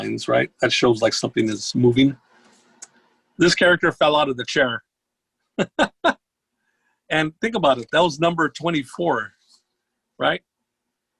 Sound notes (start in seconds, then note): 5.6 laughs